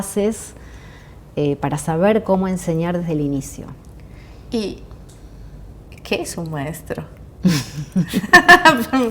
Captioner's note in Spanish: risas